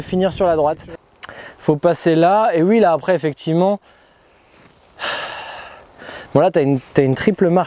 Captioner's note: sigh